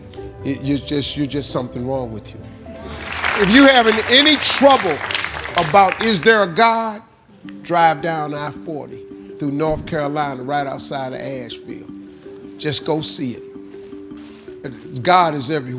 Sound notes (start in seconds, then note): 2.8 crowd applauds